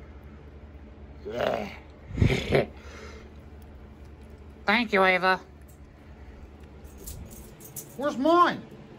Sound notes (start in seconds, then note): 2.1 Caprice laughs and giggles